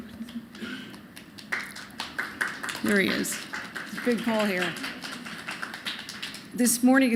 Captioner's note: applause